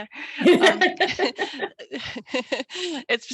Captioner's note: laughs